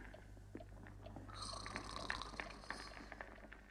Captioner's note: snoring continues